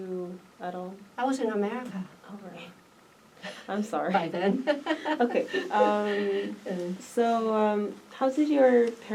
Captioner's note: laughs